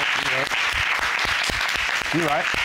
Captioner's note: audience applauds